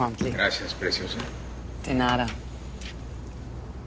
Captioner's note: говори испански